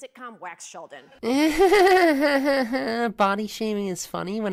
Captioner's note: mimics Samantha's awkward laughter